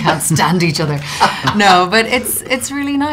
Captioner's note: laughing